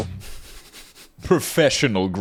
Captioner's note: laughing